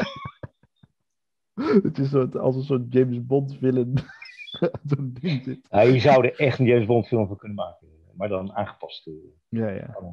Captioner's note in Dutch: gelach